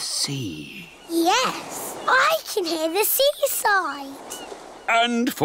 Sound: waves splashing

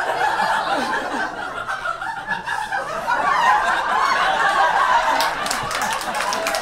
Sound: audience laughs and applauds

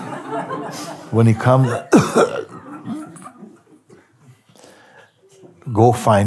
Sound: laughter; makes coughing sound

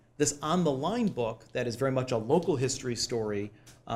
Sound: none

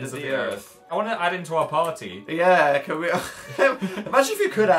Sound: laughs

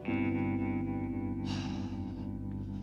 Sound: sighs

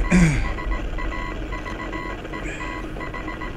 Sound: clears throat

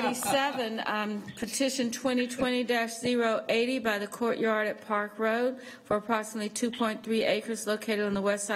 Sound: laughter

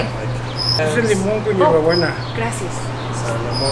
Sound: man speaks Spanish

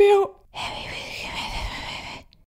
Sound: whispering

